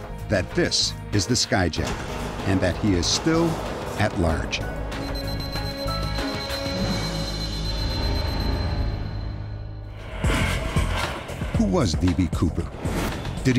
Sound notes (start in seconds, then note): 5.8 beeping